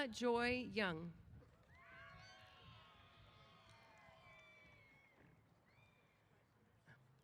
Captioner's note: applause & Cheers